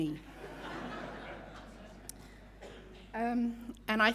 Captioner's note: audience laughing